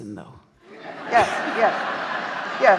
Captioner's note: audience laughing